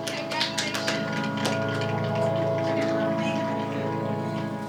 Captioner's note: audience applauding; gentle music